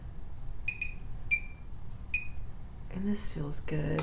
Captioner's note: microcurrent beeping